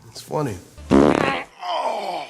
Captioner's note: passing gas loudly